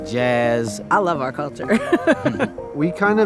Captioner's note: laughing